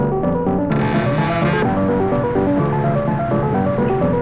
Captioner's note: door creaks